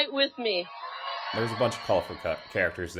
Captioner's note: cheering Crowds